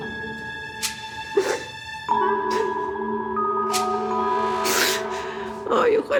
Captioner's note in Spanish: Sollozos